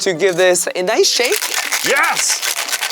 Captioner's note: cocktail shaker shaking